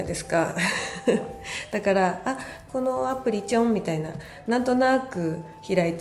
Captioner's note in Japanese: 息をのむ音